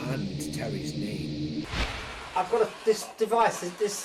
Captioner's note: continuous crackling sound of the spirit box is heard